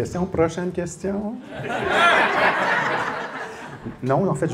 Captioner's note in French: rires